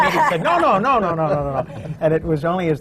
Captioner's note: laughter